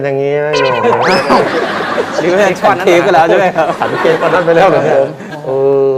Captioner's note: talking like a drunk. Laughing sound